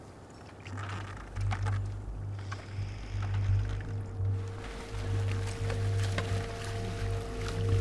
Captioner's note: dramatic music; water splashing